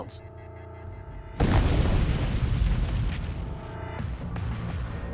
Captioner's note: bomb exploding